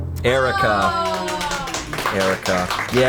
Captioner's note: colleagues gasping and applauding